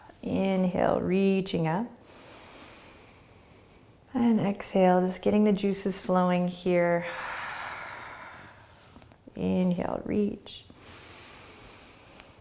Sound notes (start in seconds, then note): 2.1 inhaling; 7.0 exhaling